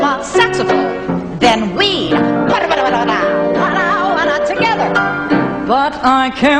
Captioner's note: vocalizes; trilling